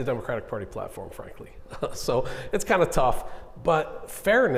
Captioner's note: chuckling